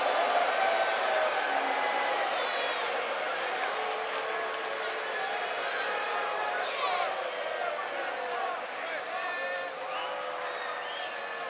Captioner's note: cheers and boos